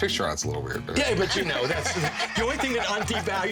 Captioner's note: group laughs